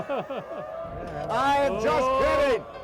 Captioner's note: laughing; crowd booing